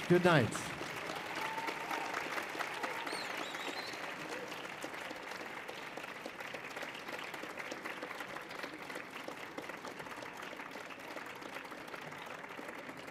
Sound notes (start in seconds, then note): 0.0 audience cheering; 1.5 audience applauding